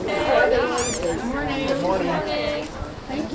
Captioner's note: haha